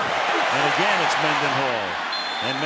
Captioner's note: cheering